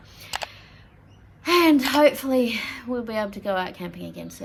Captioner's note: sighs wistfully